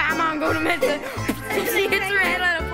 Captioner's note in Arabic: يضحك